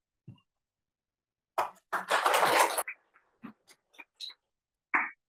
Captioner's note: applause